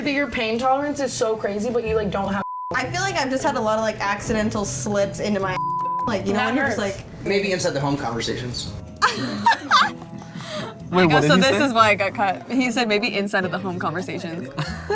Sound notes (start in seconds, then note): 2.4 beep; 5.5 beep; 9.0 laughs; 14.5 laughs